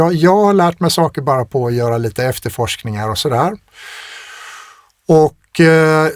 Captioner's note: sighs